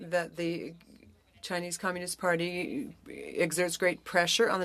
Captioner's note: speaking French